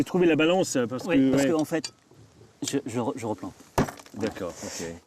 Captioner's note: speaking in French